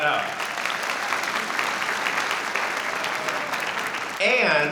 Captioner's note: audience applauding